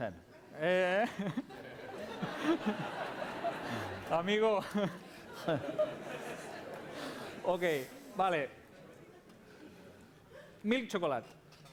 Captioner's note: non-english speech